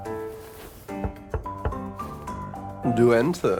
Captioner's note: knocking